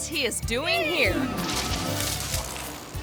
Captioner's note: tree rustling; bike whirring